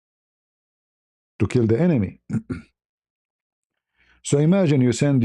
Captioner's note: berdehem